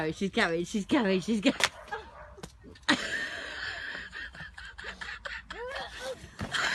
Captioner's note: laughs